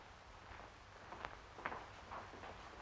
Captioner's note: none